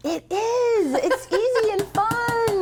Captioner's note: laughs